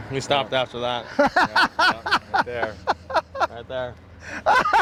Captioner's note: laughter